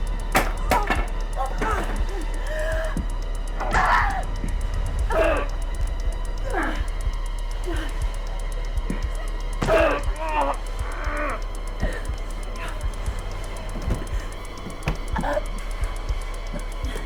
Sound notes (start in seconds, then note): 0.0 Sue shrieks; 1.4 Sue groaning; 1.4 Tina gasps; 3.7 strike cracking; 6.3 assailant groaning; 9.6 strike thudding; 9.6 assailant groaning; 15.2 Tina gasping